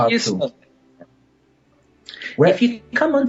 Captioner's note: audio cutting out